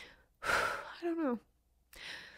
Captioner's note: heavy sigh